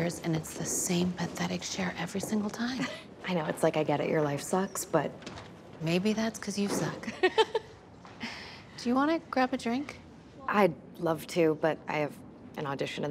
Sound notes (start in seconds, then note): 7.2 laughing